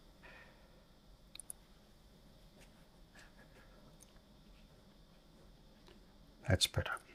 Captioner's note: silence